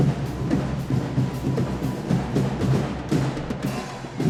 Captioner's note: audience cheering